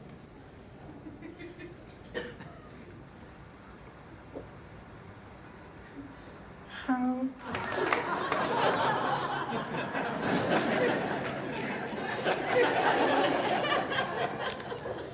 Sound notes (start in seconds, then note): 7.5 audience laughs